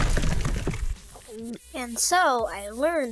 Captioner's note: gulp